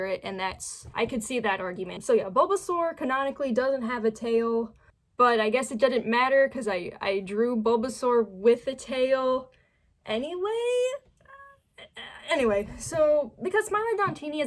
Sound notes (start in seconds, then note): 11.3 stammering